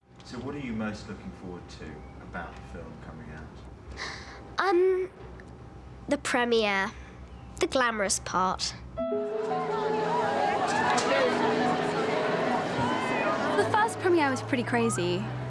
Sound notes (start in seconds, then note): 9.3 crowd chattering